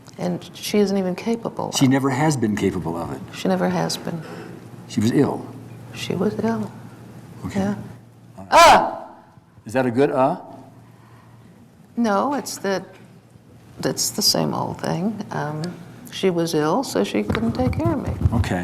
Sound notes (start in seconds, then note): 8.5 barks